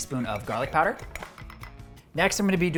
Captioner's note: spoon tapping bowl